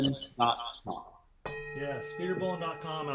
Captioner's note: bell rings